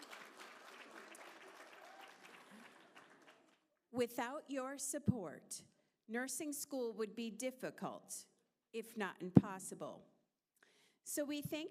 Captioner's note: applause